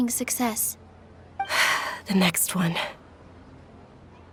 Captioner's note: sigh